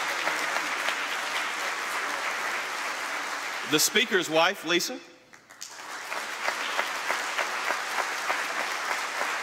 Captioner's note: applause